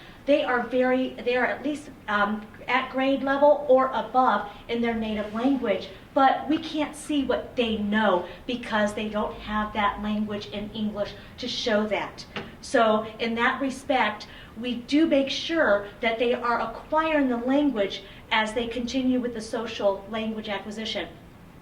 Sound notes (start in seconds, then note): none